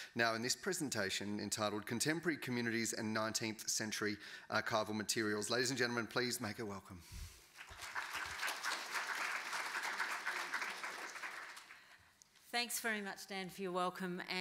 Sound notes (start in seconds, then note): 7.5 audience applauding